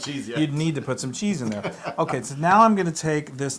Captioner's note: laugh